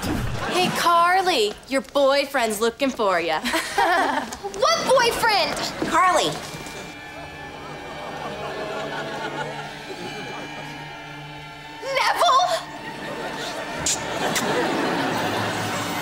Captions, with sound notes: Hey, Carly, your boyfriend's looking for ya. [laughing] What boyfriend? Carly. Nevel?